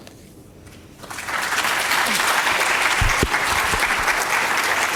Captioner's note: audience applauding